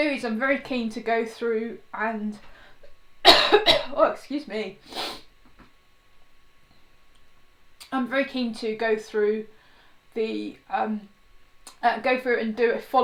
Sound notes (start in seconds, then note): 3.2 coughs; 4.8 sniffs softly